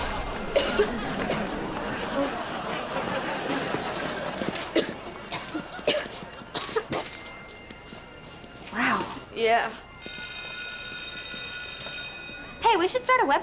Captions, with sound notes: [coughing] [coughing] - Wow. - Yeah. [bell ringing] Hey, we should start a web show.